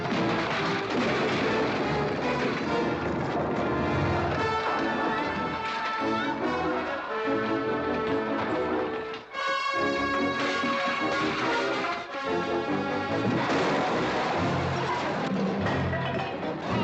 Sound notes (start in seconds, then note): 0.0 crash; 2.2 dramatic music; 10.4 bucket clattering; 13.2 loud crash